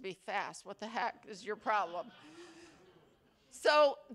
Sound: attendees laughing

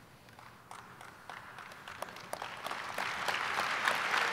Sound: audience applauding

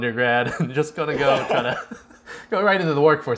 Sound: chuckles; laughs

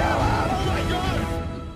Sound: screaming

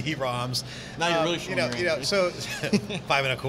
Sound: both laughing

